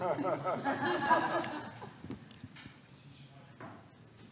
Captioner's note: audience laughing